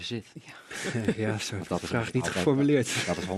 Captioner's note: lachend